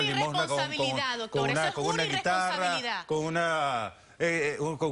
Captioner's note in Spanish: Hablan al unísono